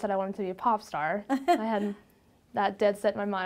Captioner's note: laughs